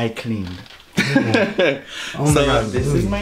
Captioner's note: laughing